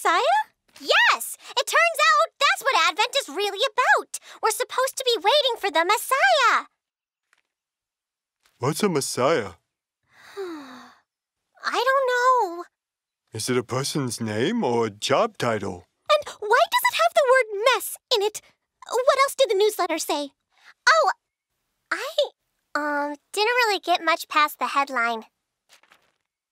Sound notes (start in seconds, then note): 10.1 sigh